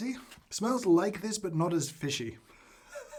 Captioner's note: laughs